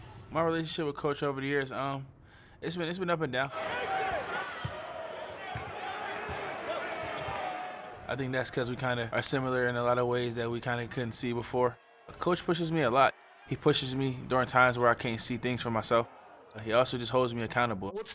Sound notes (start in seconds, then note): 3.7 coach yelling; 5.0 crowd cheering